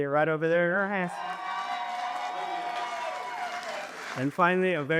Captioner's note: cheers and applause